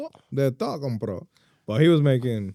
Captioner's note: speaking In Foreign Language